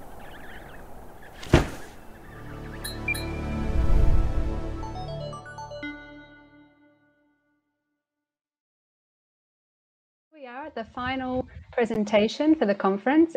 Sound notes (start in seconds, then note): 0.0 baby penguins chirping; 0.0 wind blowing; 1.2 metallic "blink" sound effect; 1.4 loud thud; 2.1 musical drone; 2.3 short uptempo melody; 3.4 whoosh